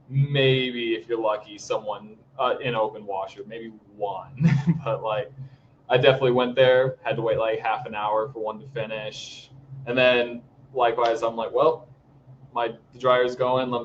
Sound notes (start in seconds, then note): 4.4 all laughing